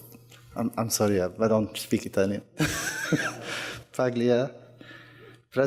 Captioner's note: laughs